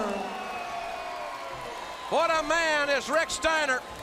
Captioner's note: crowd cheering